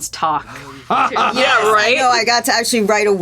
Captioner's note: Gould laughs